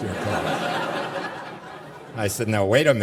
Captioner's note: laughter